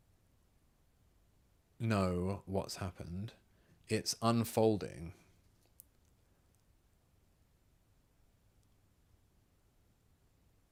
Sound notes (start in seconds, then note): 5.0 silence